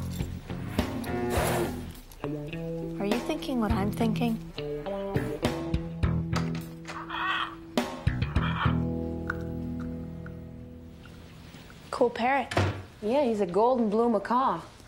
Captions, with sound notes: (cow mooing) Are you thinking what I'm thinking? (parrot squawking) Cool parrot. - Yeah, he's a golden blue macaw.